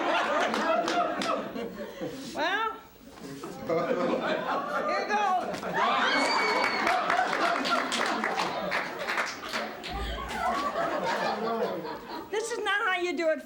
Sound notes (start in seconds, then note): 0.0 laughter; 5.5 laughter and applause